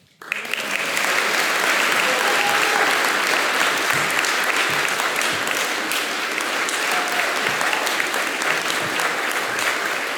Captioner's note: applause